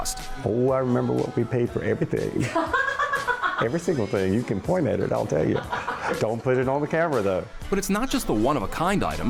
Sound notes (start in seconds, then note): 2.4 laughing